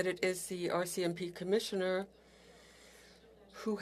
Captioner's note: speaking French